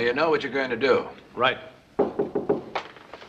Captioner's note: knocking at door